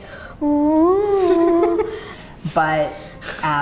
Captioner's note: laughs